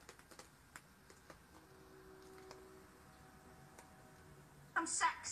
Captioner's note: train horn blows in distance